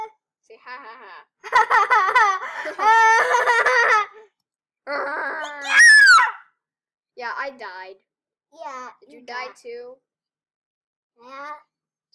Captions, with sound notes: *Laughing* YOU DIED! Yeah Yeah